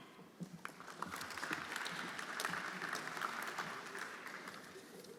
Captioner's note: everyone applauding